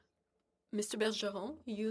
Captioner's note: speaking FRENCH